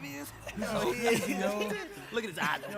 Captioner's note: group chattering